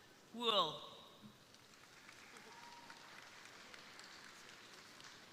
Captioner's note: crowd applauding